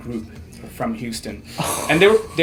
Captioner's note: chuckles